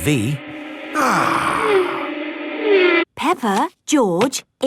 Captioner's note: contented sigh